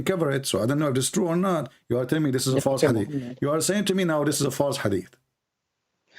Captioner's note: Ketawa